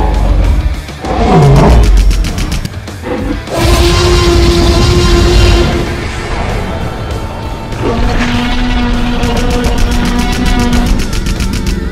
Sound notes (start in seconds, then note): 0.2 machine guns firing; 3.1 loud roar; 9.3 machine guns firing